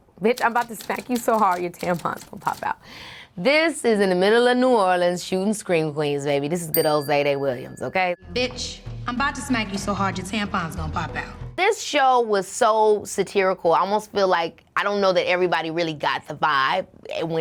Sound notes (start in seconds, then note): 6.7 bell dings